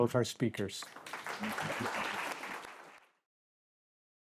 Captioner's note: all clapping